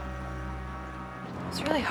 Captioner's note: ship horn blows in distance